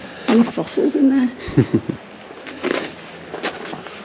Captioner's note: laughs